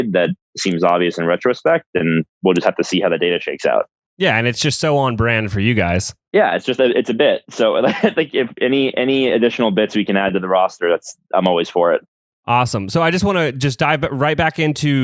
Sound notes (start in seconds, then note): 8.0 laughs